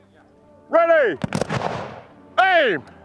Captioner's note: rifles firing